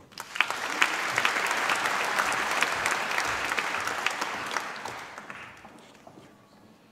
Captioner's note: applause